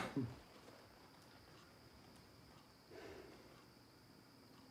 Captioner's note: X coughing